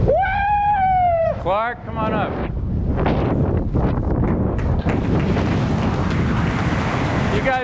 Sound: applause

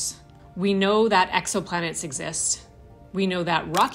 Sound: camera click

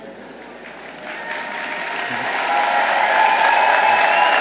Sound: audience applauds

